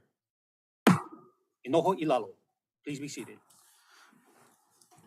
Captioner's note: gavel bangs once